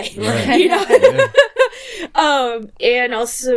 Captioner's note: laughing